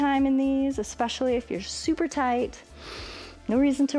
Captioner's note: inhales